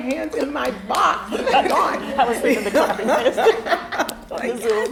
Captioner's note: all laughing